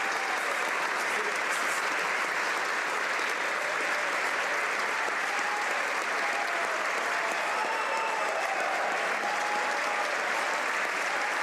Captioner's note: applause